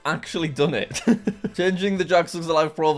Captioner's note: laughs